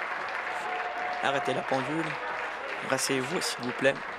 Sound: applause

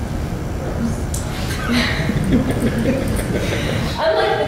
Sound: laughter

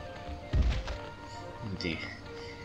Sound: thud!!

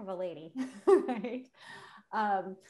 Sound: laughs

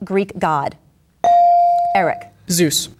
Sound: bell dinging

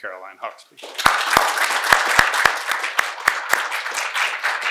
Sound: audience applauding

